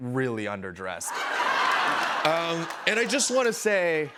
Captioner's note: laughter